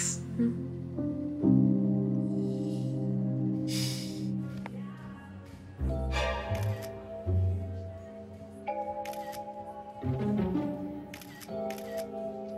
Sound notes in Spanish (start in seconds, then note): 6.6 Sonidos de la cámara